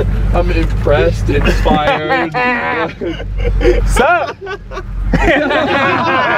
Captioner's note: guys laugh